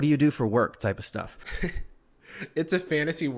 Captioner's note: softly laughs